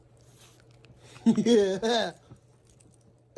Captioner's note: Ella chuckles